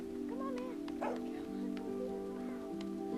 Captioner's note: barking